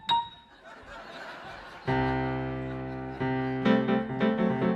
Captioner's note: audience laughing